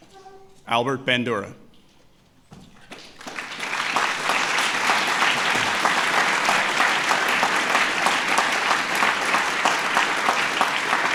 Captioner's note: applause